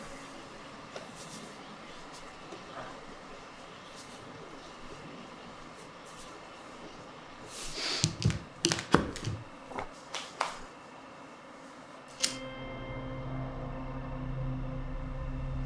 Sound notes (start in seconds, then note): 0.3 salt shaking; 7.4 sniffs; 9.7 hands clap; 12.3 expectant music